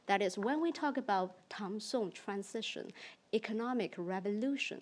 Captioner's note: speaks in foreign language